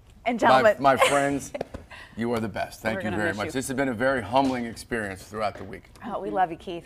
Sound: laughter

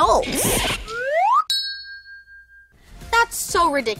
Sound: bell ringing

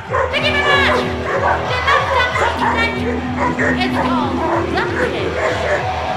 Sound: fans cheering; dog barking

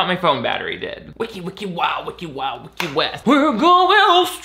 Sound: beatboxing

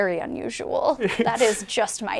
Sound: laughing

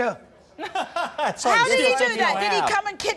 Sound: laughs

